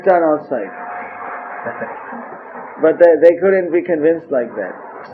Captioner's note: devotee chuckles